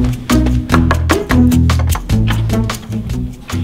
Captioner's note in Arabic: الطبيبة تقرع الباب وتدخل